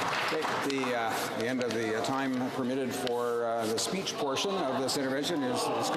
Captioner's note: some Applause